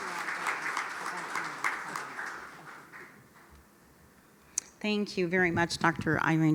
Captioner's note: applause